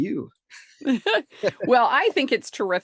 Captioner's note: chuckles